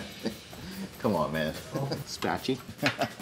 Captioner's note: laughs